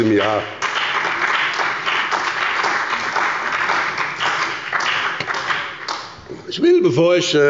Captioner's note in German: Beifall bei dem BÜNDNIS 90/DIE GRÜNEN und der CDU